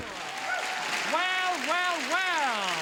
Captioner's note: audience applauds